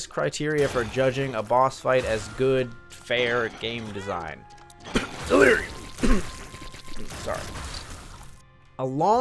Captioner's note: cough